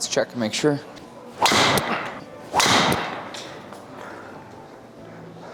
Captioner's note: golf club whacking